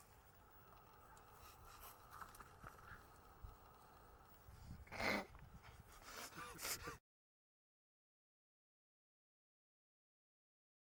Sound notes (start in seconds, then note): 6.0 laughing